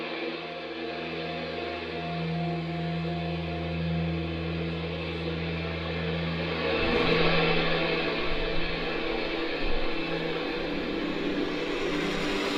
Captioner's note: static getting more intense